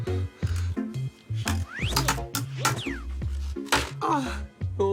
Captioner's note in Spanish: Sonido al teclear